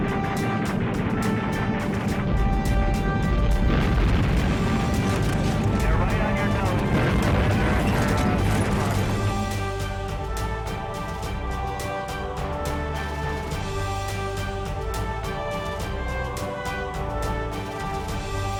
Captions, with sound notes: - [Voiceover] They're right on your toes. (bright uptempo drumming music)